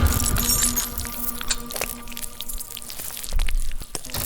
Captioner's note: chains rattling; sinister music